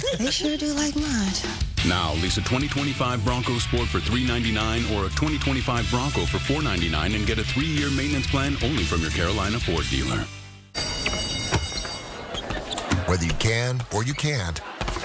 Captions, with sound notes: [ school bell ] Whether you can or you can't...